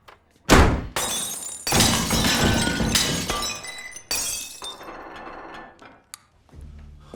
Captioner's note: crashing